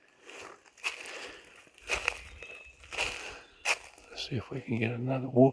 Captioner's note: leaves crunching